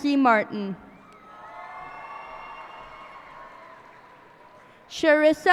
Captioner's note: cheers and applause